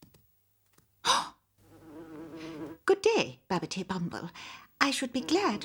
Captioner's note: gasping